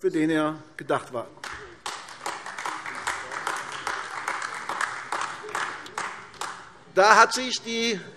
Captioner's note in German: Beifall AfD